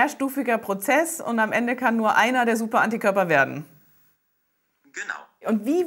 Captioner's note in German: Hust